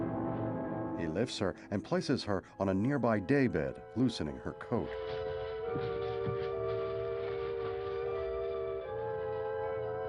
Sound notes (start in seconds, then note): none